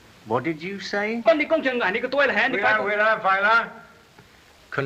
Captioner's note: arguing in Chinese